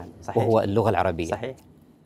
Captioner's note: the Arabic Language